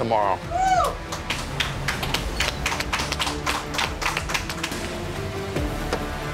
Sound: dramatic music; people clapping

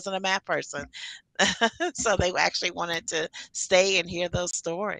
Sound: laughing

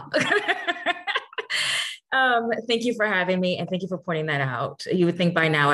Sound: laughs

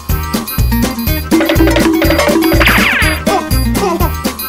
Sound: 1950s Hannah-Barbera cartoon running sound effect; cooing

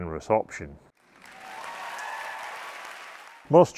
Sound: audience cheering

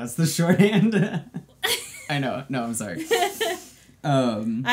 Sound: laughs

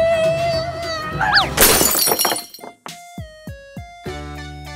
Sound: crashes

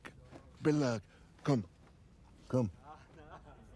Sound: in English

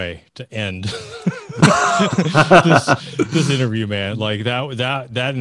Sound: laughs

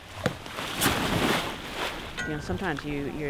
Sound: splash

